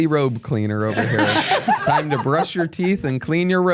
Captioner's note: everyone laughs